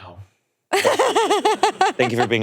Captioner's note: laughing